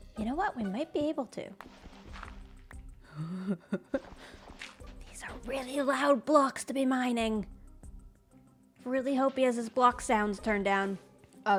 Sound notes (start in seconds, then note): 3.2 laughs; 4.7 whispers